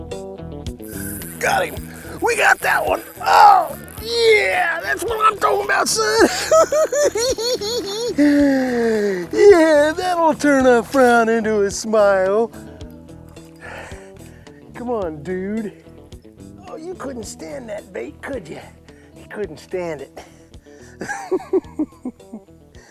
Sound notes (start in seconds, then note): 6.1 hooting and giggling; 13.6 sighs; 21.0 laughing